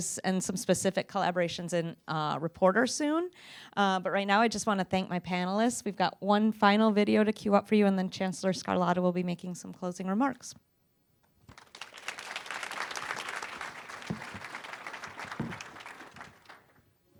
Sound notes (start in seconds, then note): 11.5 applause